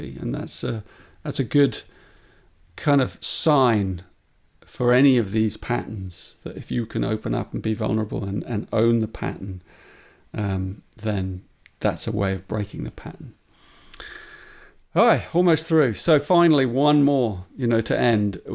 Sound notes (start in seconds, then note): 13.9 sighs